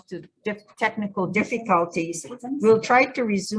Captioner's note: people murmuring